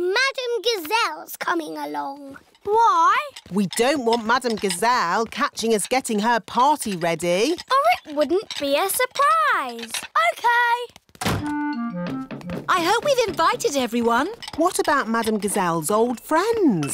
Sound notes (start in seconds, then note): none